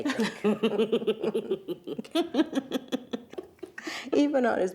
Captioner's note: both laughing